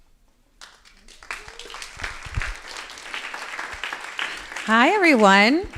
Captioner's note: crowd applauding